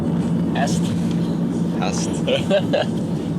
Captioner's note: funny dialect; laughter